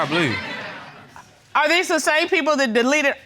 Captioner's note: audience laughing